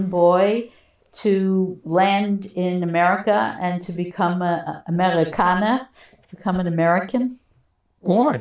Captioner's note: non-english